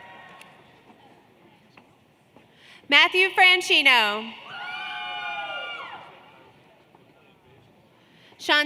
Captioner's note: cheers and Applause